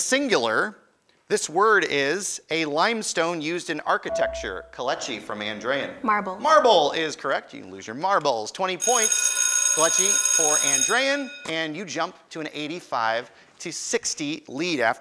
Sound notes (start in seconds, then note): 4.1 ding; 9.1 ringing